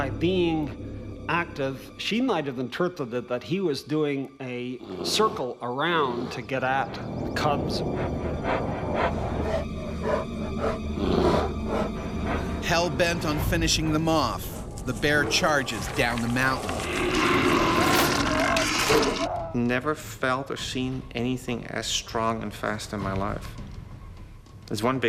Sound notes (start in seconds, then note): 13.1 voiceover; 17.4 bear growling